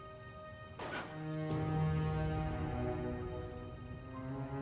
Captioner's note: clattering